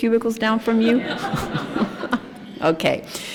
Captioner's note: laughter